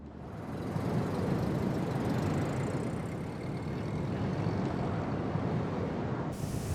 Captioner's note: wind howling